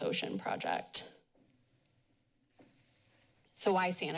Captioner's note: pause